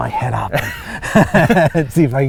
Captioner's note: laughter